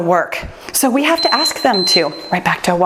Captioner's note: timer beeps